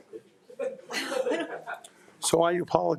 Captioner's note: people laughing